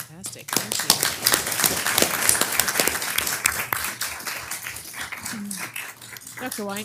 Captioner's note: applause